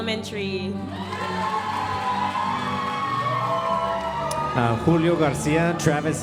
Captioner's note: audience cheering and applauding